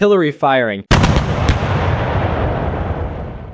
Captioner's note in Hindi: तोपखाने की बमबारी।